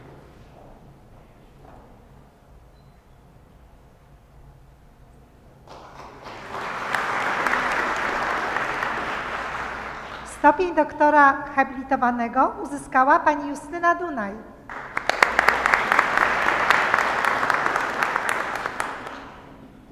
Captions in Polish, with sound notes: [oklaski] Stopień doktora habilitowanego uzyskała Pani Justyna Dunaj. [oklaski]